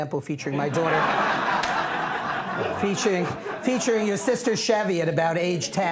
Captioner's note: laughter